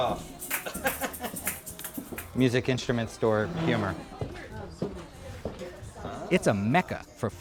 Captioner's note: laughter